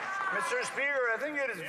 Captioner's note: some Applause